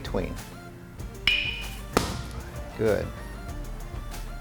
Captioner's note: crack